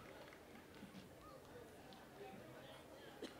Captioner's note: cheers and applause